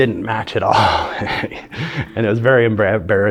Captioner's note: laughing